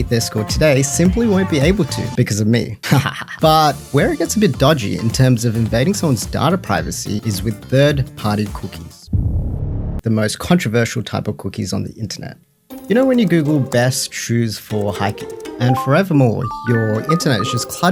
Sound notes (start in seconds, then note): 2.8 evil laugh